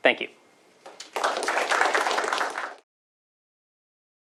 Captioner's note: applause